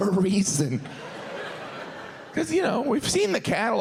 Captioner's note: audience laughs